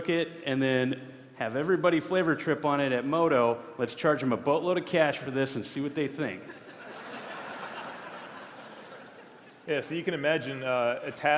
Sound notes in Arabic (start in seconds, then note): 6.4 ضحك